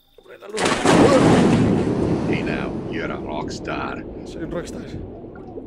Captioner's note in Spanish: Sonido del juego